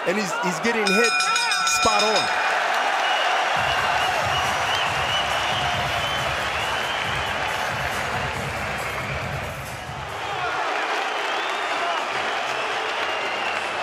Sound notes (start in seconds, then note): 0.8 bell dinging; 3.4 cheers and applause; 6.4 upbeat music playing